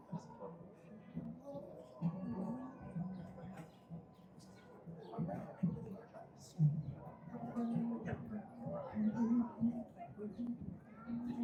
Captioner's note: crowd chattering